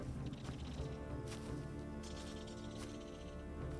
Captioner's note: birds chirping